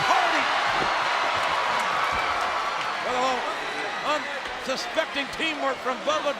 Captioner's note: applause